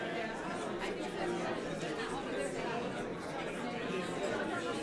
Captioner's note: overlapping chattering